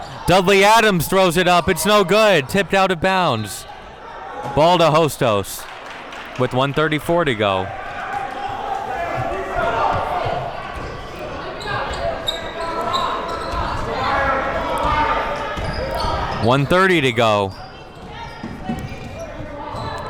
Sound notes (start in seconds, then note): 3.7 whistle blows